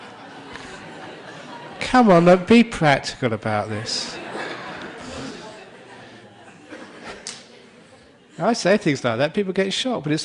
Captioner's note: laughter